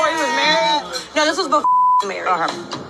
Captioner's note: beep